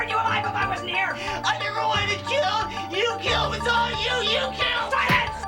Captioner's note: exclaims